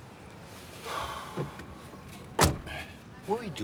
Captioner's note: sighs